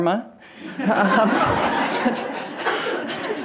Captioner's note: audience laughing